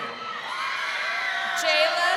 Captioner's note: crowd cheering